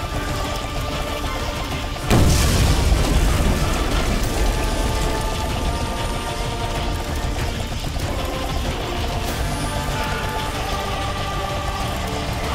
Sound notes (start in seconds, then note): 1.8 bomb explodes; 8.0 intense music